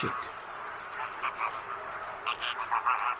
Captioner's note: croaking